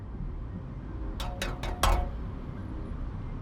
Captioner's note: electronic knocking